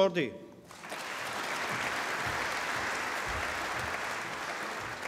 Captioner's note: applause